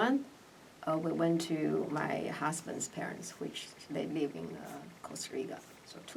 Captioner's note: whispers